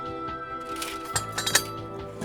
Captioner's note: metal workshop tools clinking; manilla envelope crinkling